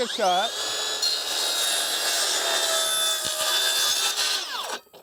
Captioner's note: saw roars and whines